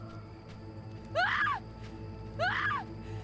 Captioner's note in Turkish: Çığlık sesi